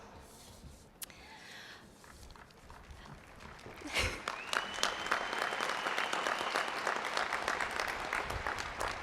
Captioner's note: applause